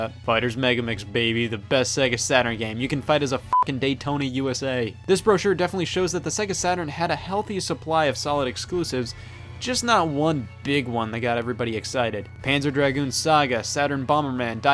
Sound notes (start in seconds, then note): 3.5 beep